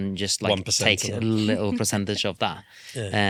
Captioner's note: laughs